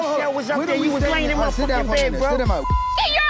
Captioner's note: people yelling at once; beep